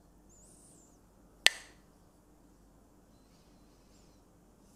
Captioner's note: Mooji clacks the sticks